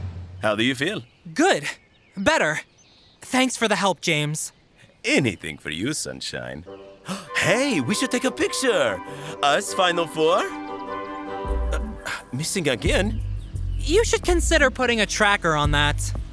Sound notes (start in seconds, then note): 7.0 gasps; 11.7 stammers